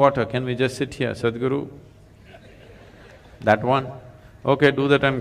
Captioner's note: laughter; 笑聲